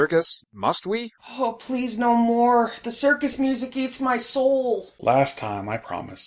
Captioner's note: pained